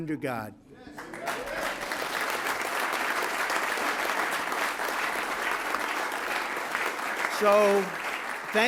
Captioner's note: applause